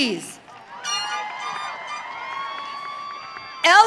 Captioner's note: audience cheering